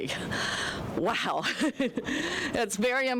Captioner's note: laughing